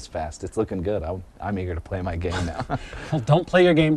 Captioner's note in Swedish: småskratt